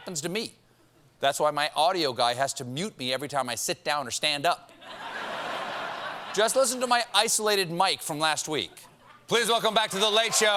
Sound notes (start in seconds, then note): 4.7 laughter